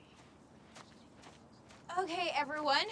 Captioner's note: footstep